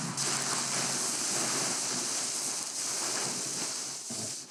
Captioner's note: tarp rattling